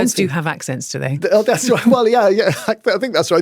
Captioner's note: laughs